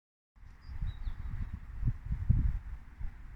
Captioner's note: birdsong